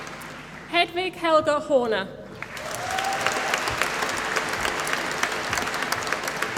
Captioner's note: applause